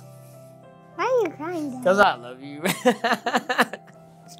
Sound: laughs

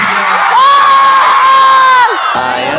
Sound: screams

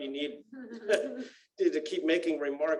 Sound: laughter

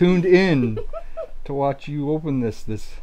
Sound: giggles

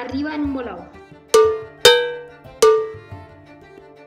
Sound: cowbells

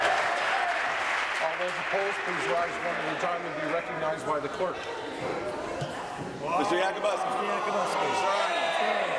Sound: applause

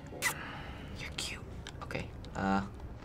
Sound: whispering

